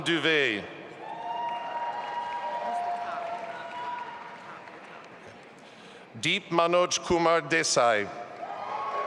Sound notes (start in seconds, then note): 1.0 audience applauding